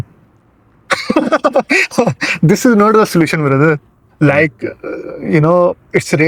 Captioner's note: laughter